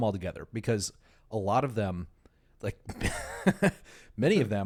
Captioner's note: laughs